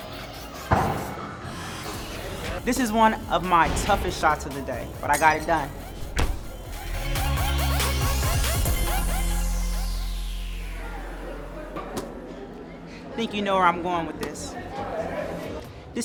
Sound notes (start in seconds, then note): 0.1 ball bounce on floor; 0.7 basketball falling through rim and net; 6.1 basketball falling through rim and net; 8.0 upbeat music